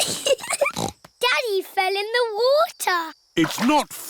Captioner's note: giggling